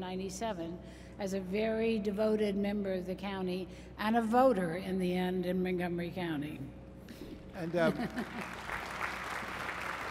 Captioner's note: applause